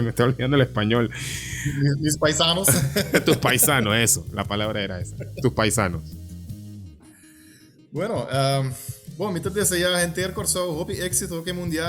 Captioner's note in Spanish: risas